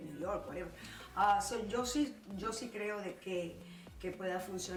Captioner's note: speaking Spanish